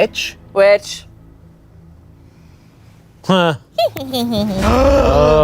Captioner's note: cackles